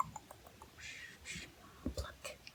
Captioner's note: clicking; shushing; whispered